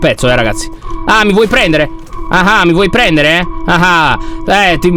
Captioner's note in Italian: tono di scherno